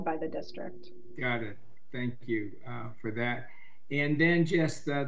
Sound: car

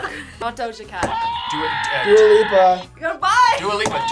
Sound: buzzer sounds

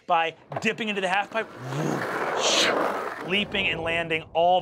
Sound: mimics zooming

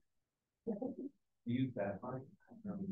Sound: chuckling

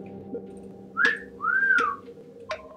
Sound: whistles

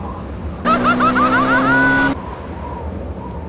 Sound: screaming

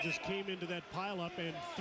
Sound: whistle

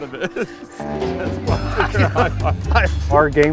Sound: both laughing

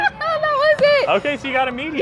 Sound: laughs

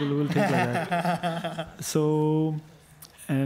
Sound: panel laughs

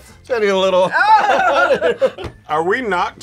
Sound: both laugh

